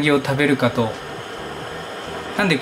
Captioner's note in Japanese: 湯沸かしの音